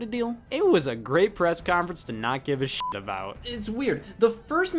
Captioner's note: beeps